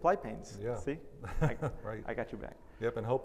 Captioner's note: laughs